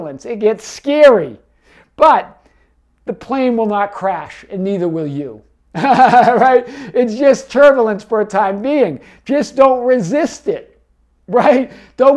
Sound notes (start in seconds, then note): 5.8 laughing